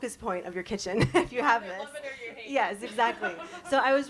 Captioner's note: chuckles; chuckles